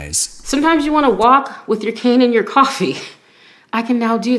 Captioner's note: laughs